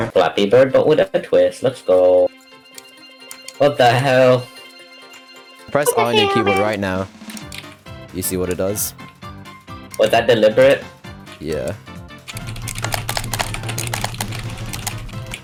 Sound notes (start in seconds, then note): 5.8 random yapping noises